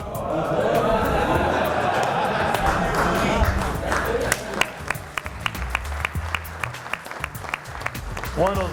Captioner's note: clapping